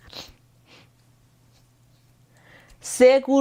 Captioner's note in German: gelächter; schnauben